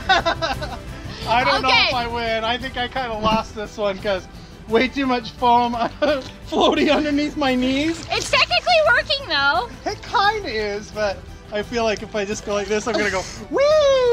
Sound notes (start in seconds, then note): 5.8 laughs